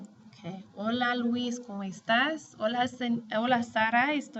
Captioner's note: speaking spanish